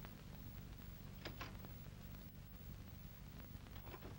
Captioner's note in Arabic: خشخشة مقبض الباب